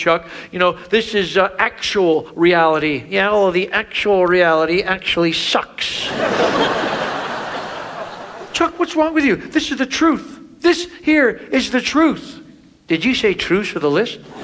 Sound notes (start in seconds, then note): 6.0 audience laughs